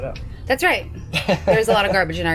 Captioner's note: laughs